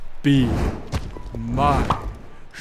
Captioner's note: pop!